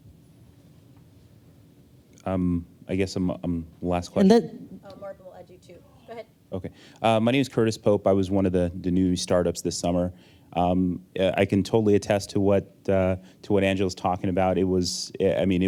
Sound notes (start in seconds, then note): none